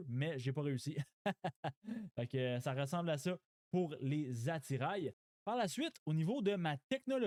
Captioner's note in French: rires